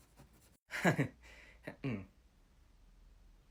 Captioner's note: suspicious laughter